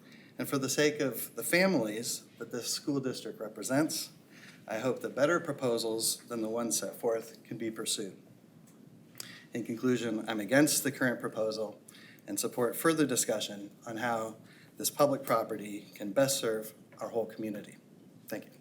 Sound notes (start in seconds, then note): none